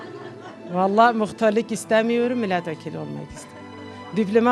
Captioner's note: people laughing